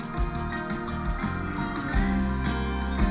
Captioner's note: distant screams